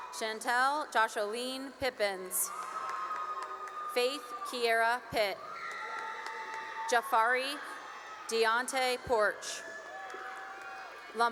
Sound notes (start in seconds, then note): 2.1 cheering and applause; 5.2 cheering and applause; 9.8 cheering